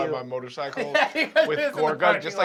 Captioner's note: laughs